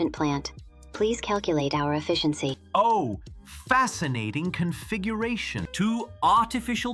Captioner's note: excited